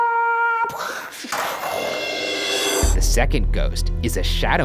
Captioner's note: imitates plane crashing